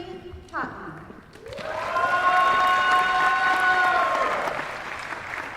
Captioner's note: applause